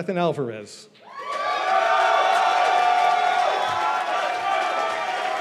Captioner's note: cheers and applause